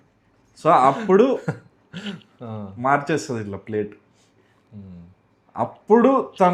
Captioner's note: laughs